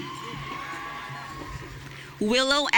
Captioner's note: audience cheering